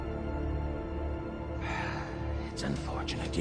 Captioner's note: sigh